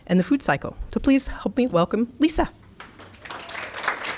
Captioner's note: applause